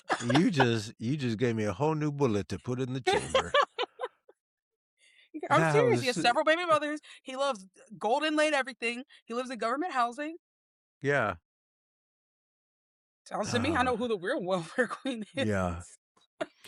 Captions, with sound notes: You just gave me a whole new bullet to put in the chamber. (Laughing) I'm serious, he has several baby mothers. He loves golden lay and everything. He lives in government housing. Yeah. Tell me how to who the real World Fair Queen is. Yeah.